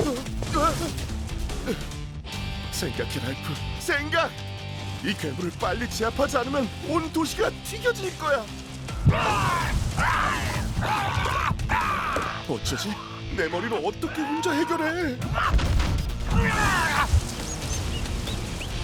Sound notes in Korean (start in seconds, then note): 9.0 포효하는 소리; 16.3 새 소리